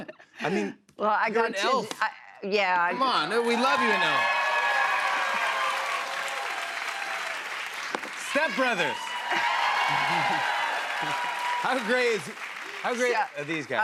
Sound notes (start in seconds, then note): 4.8 cheers and applause; 10.5 cheers and applause